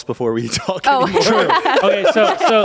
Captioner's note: everyone laughs